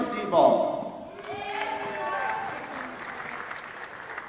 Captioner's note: applause